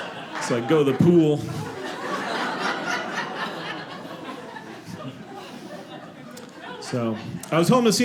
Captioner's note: audience laughing